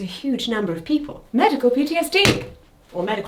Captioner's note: stick smacks